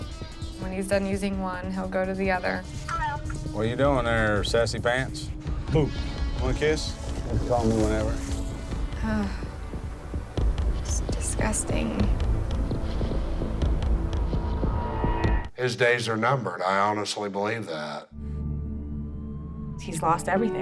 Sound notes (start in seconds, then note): 2.4 woman on phone; 8.9 sighs